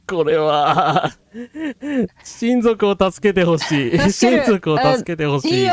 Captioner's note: laughter